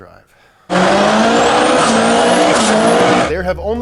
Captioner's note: engine revving